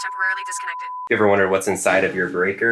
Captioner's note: tone sounding